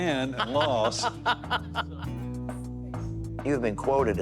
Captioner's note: laughing